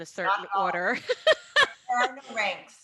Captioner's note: laughs